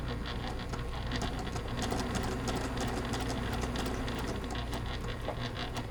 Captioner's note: sewing machine churning